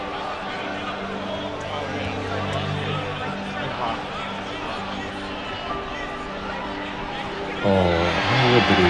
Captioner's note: 박수